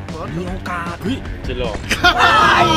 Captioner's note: Pat; laughs maniacally